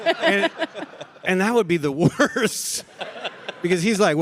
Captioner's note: laughs; laughs